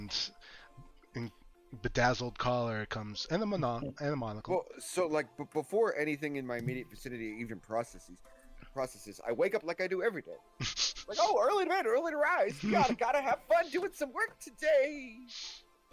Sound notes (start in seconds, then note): 14.2 trails off